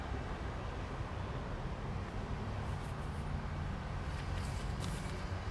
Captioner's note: light traffic sounds